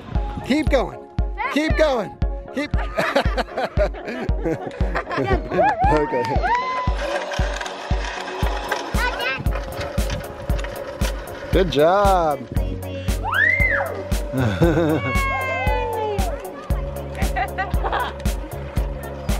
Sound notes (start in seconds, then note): 2.6 laughs; 13.2 child screams; 14.3 chuckles